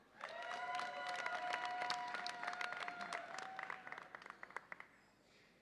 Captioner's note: audience applauds and cheers